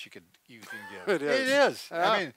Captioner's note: laughing